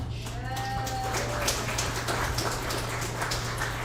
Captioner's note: audience applauds